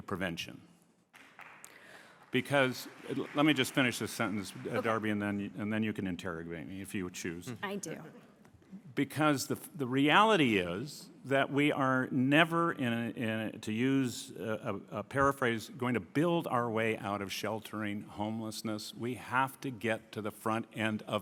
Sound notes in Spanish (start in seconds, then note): 5.9 Aplausos